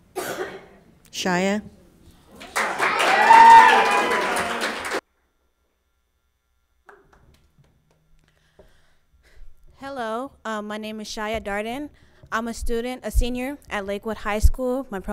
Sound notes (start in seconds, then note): 2.4 audience applauds; 2.4 people cheer